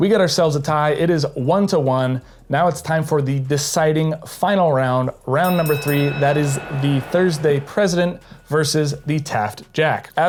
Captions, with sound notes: We got ourselves a tie. It is one to one, now it's time for the deciding final round. Round number three, (boxing bell ringing) that is the Thursday President versus the TAFT Jack.